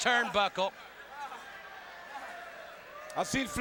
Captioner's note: Flair stammering